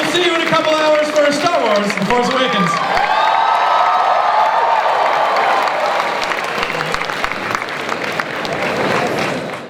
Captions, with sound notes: I will see you in a couple hours for Star Wars The Force Awakens. (applause)